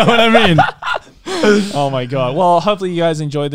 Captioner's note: laughs